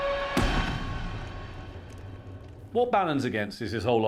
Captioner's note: alarm beeping; title booming